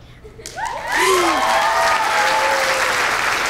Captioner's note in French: acclamations